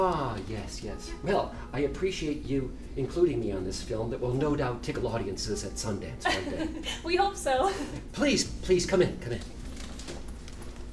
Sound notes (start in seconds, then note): 6.2 giggles